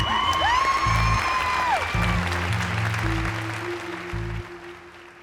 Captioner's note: cheering and applause